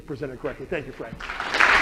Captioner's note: clapping